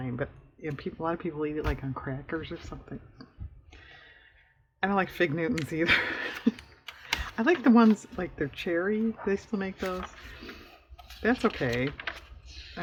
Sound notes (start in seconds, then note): 5.7 laughs